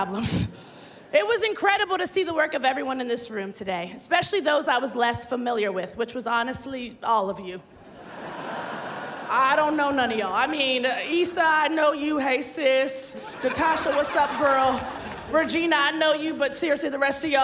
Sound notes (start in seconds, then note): 13.1 laughter